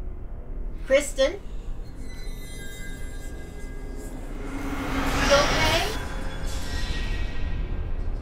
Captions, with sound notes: - Kristin? (eerie whispering) (dramatic music) You okay?